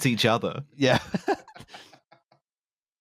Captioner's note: laughter